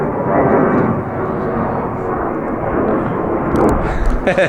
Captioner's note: plane engine whirring